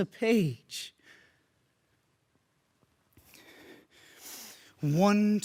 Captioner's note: heavy breathing